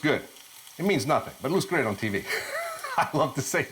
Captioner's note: laughs